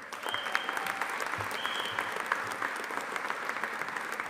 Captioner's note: audience applauding